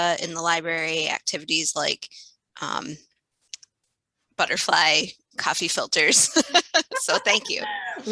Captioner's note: laughter